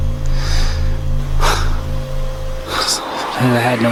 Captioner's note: sighs